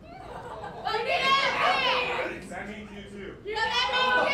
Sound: shouting

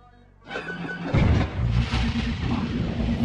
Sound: clunk

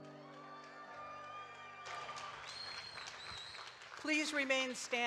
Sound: audience cheering and clapping

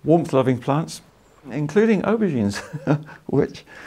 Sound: laughs

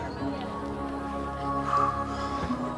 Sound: people chattering; gentle vocals

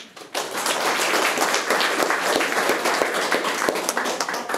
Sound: room applauds

